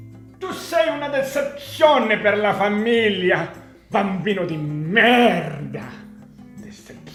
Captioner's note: in italian